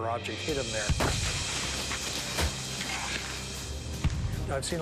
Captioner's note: gun fires